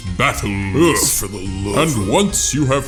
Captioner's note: mumbling